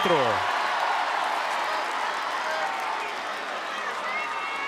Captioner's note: crowd cheering